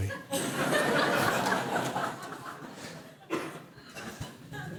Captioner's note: laughter